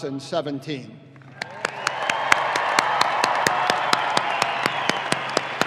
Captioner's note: audience applauding